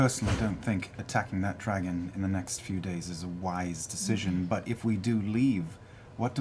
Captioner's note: none